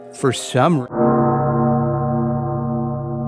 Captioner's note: death knell